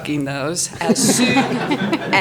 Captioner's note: audience laughs